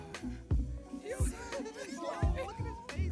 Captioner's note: group chattering